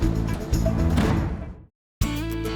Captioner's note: door slams